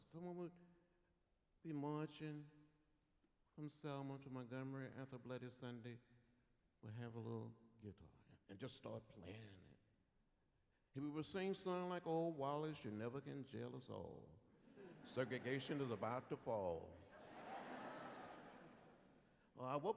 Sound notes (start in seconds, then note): 17.0 laughter